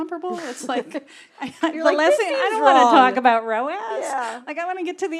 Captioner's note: laugh